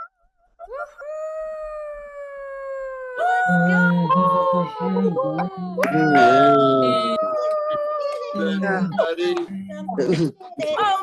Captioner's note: cheering